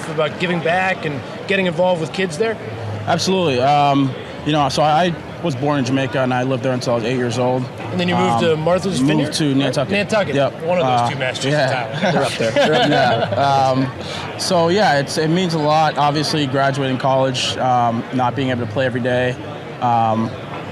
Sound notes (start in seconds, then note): 11.8 laughs